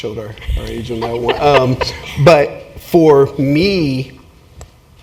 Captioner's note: laugh